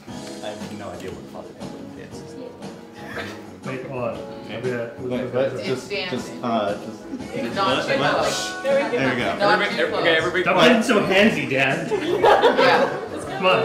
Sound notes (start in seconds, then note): 5.2 confused stammering; 11.9 laughter